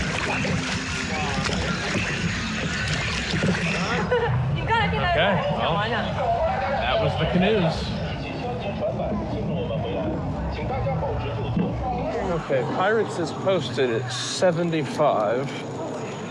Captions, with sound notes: Okay, well, that was the Canoes. (speaking in Chinese) Okay, Pirates is posted at 75.